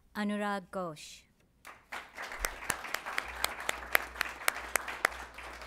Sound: applause

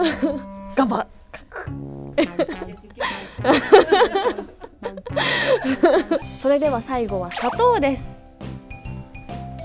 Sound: laughs

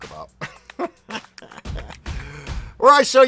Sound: laughs

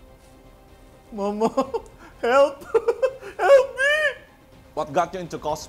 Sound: laughs

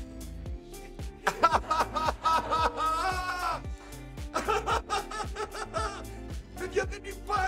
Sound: laughs

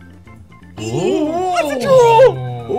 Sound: group oohing

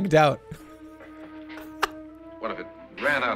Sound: laughs

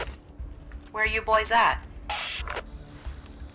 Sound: radio

